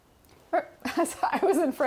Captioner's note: laughs